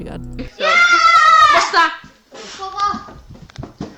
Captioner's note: kids yelling playfully